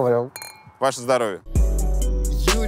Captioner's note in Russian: цоканье бокалов; музыкальная заставка